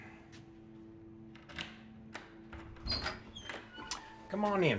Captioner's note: gentle stirring music; door clicks open